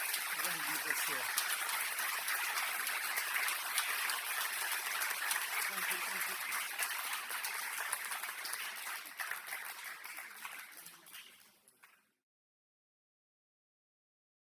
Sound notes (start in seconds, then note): 0.0 applause; 1.5 applause